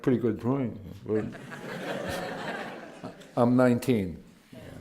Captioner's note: laughter